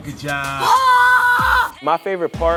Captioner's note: screaming